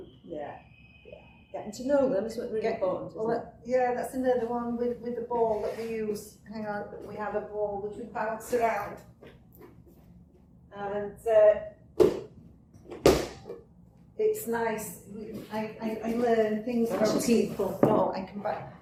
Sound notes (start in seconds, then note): 12.8 bounces ball